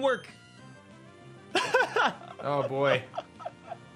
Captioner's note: laughs